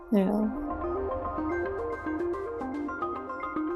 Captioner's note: voiceover